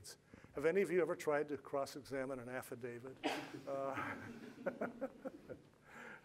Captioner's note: laughs